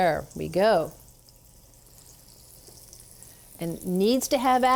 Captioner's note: oil sizzling